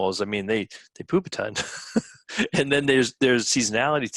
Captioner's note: laughing